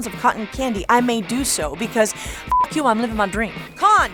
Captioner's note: beep